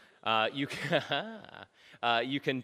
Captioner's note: audience laughs; laughs